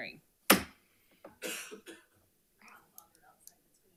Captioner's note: gavel pounds